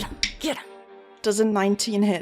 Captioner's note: dice clacks